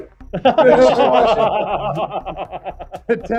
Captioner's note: chuckling